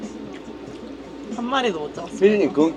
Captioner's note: haha